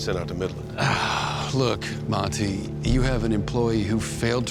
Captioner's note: sighs